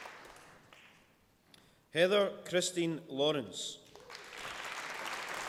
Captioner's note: applause